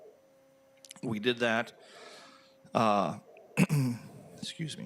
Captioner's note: clears throat